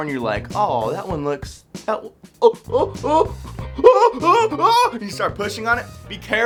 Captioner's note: exclaims